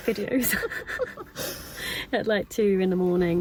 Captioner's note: both chuckle